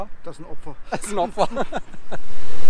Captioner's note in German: Gelächter